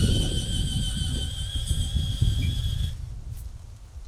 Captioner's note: drill spinning